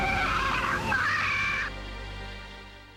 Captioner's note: shrieking